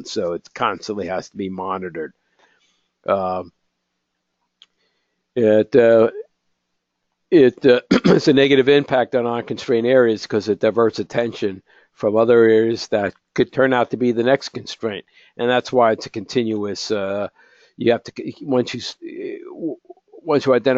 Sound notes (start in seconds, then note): 5.2 cough